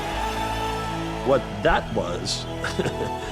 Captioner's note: chuckles